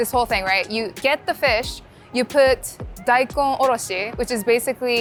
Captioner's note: speaking Japanese